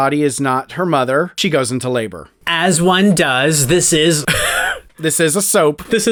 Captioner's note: laugh